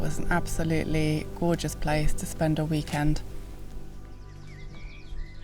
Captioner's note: none